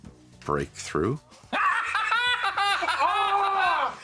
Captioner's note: laughter